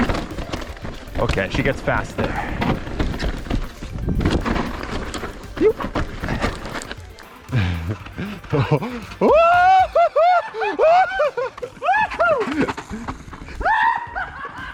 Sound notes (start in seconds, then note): 7.3 chuckles; 10.5 both scream and cheer happily